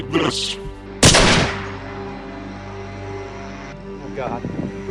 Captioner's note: gun shot